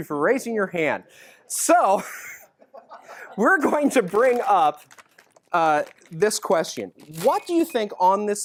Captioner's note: laughs